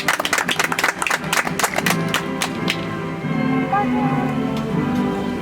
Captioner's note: audience applauds